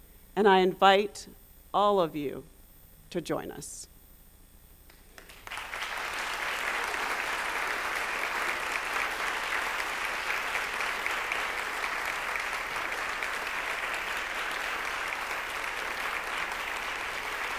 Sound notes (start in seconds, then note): 5.1 applause